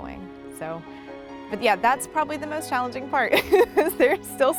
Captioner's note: laughs